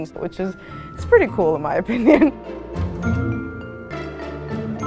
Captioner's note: laugh